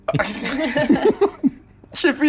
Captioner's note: players laughing